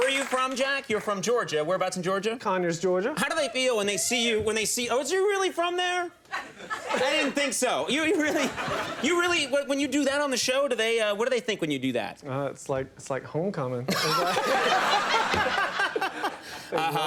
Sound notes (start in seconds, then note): 6.3 audience laughing; 13.9 all laughing